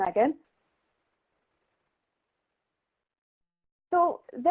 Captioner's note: silence